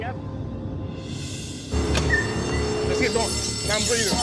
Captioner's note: alarm ringing